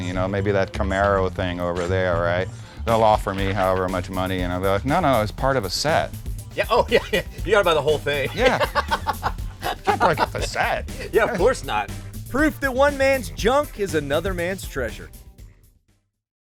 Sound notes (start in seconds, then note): 6.6 laughs